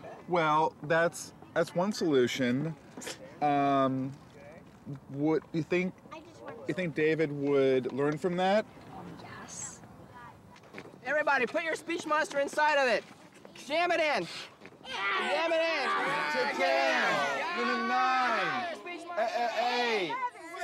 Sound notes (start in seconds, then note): 14.8 children make growling noises